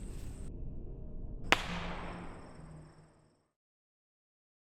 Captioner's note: bottle rocket pops